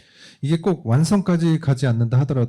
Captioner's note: speaking korean